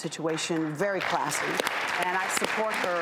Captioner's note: clapping